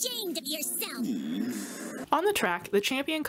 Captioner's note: Kombo groans sadly